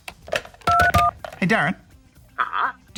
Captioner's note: dials phone